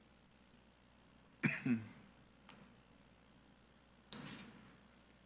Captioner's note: attendee coughing